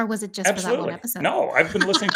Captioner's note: laughs